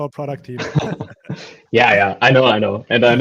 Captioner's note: all laughing